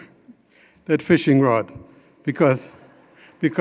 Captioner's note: chuckling